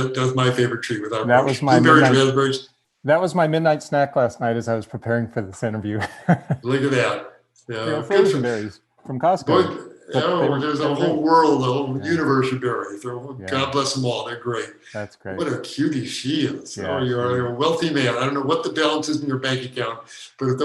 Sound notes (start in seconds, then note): 5.8 laughing